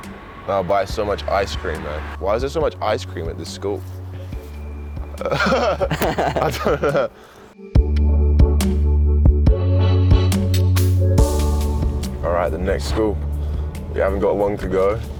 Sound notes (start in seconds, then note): 5.1 laughs